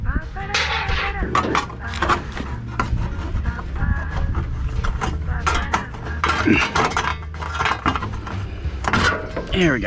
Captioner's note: moar squeaky metal noises; even moar squeaky metal noises; clang!